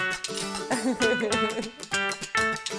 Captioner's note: wine glasses clink